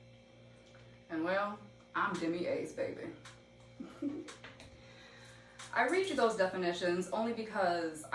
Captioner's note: giggles